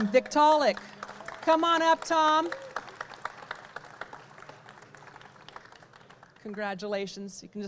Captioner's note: audience cheer and clap